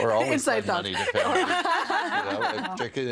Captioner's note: laughing